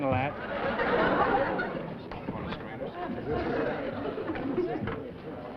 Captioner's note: laughter